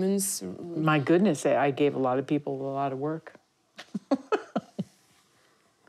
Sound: laughs

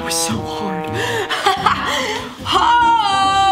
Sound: laughing

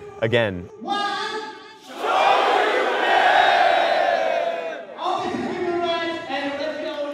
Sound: crowd

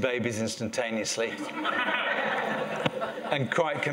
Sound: laughter

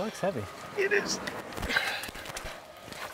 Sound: grunts

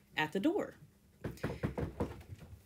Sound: knocking sound

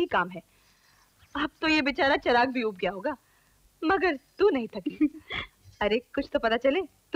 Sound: chuckles

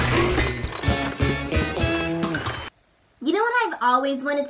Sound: metal crashing; metal squeaking

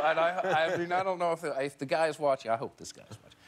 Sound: laughter

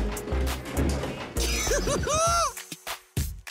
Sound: giggling

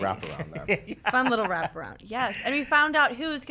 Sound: laughs

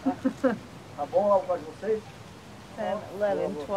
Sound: both speaking foreign language

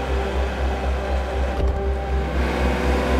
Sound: engine revving; gear shifting; engine revving

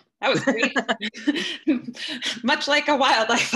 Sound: laughing

